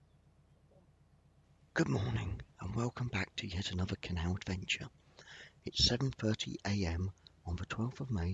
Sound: whispered

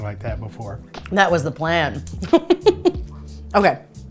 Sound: giggles

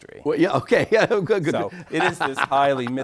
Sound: laughs; chuckles

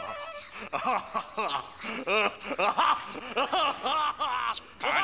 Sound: laughing

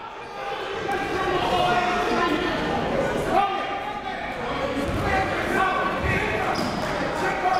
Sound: crowd talking

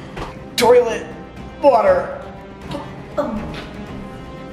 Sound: gagging

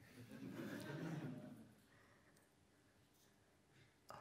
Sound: laughter

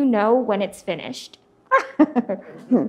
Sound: laughs; audience laughs

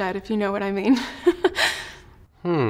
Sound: chuckles

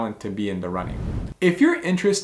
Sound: air whooshing

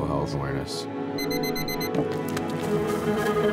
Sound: alarm beeping; footsteps

